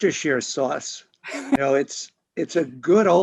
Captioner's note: both chuckling